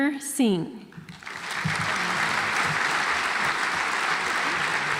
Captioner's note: audience applauds